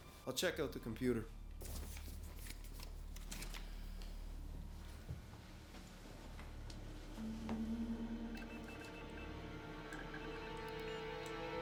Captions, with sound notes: - I'll check out the computer. (beeping)